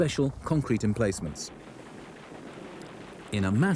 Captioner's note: guns clunk